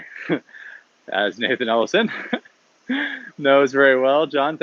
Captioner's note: chuckles